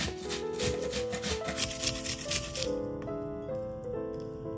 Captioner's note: juice squeezed out